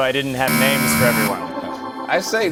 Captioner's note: buzzer